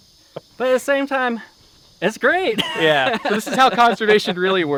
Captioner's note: laughs